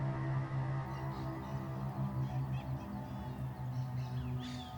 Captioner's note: suspenseful music; birds chirping